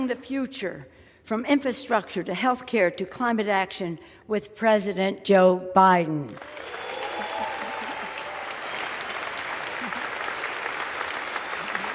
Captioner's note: applause